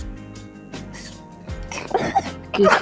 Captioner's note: giggles